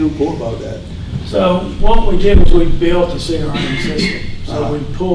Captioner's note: person coughing